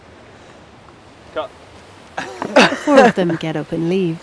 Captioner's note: laughter